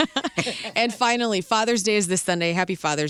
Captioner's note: laughing